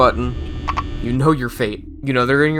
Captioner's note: door Button not working SFX